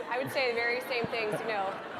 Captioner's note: audience laughter